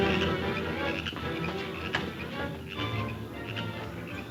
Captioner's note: frogs croaking